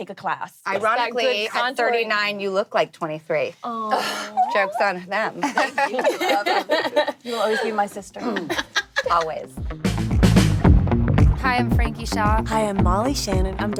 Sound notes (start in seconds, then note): 8.6 laughing; 11.0 upbeat music